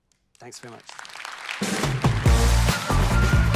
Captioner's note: crowd cheering; upbeat music